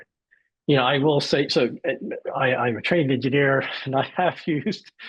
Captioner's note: laughs